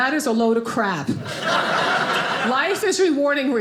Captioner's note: audience laughing